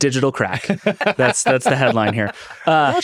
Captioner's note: laughing